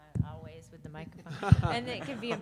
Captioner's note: laughing